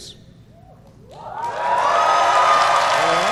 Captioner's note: applause